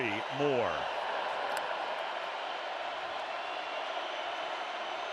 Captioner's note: crowd cheering